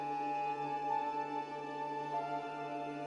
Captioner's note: none